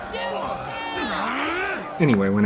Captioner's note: grunts